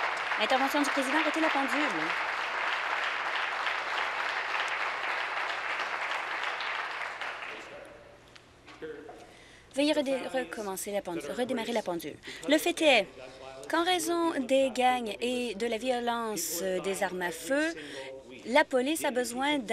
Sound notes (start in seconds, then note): 0.0 applause